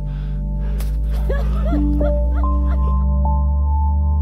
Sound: heavy breathing; laughter

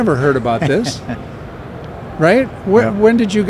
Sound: chuckles

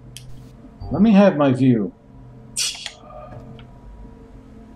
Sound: laughs softly

